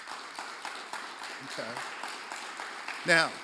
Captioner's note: applause